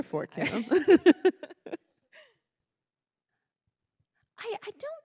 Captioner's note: laughing